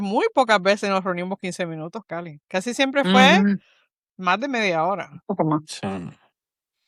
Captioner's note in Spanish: resoplido